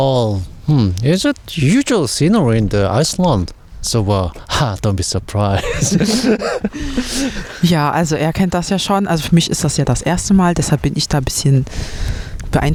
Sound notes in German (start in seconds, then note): 5.5 gelächter